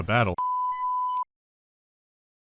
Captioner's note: tone